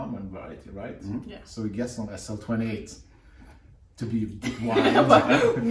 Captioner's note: laughter